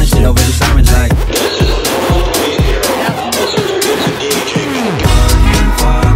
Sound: lrad voice

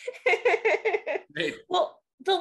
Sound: laughing

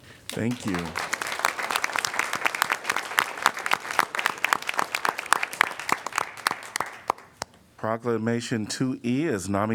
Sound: applause

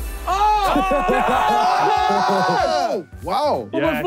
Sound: group cheering

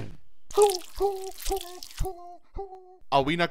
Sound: paint monster whimpers as it slithers off

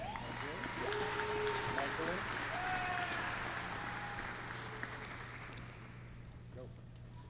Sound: applause

